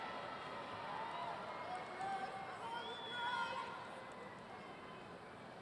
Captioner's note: audience cheering and yelling